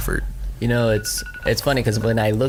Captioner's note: cellphone ringing